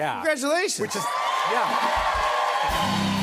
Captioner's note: cheers and applause